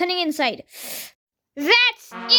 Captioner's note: inhales